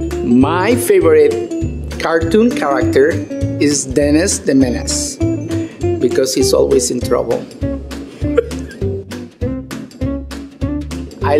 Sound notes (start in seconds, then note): 8.5 laughs; 9.4 upbeat music